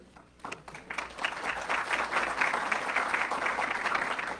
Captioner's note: audience clapping